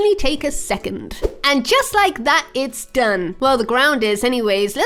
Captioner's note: air whooshing